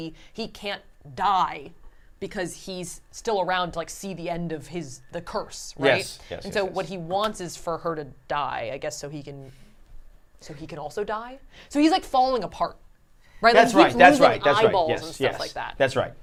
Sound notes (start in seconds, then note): none